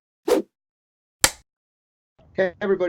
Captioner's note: whoosh, film clapper sound